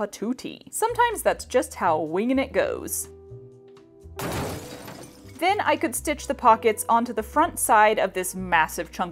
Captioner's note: massive crash